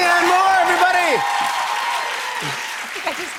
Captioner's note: cheers and applause